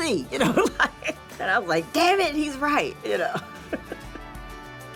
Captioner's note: laughs